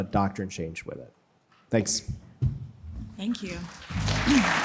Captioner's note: applause